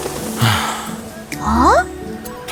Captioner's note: sigh